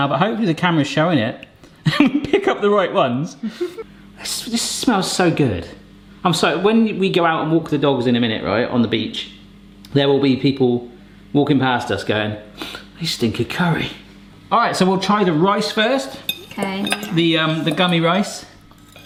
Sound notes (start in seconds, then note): 12.2 sniffing; 16.1 forks clanking